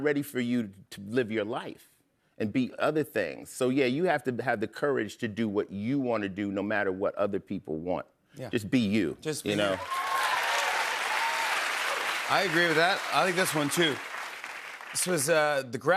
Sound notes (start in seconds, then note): 9.6 cheers and applause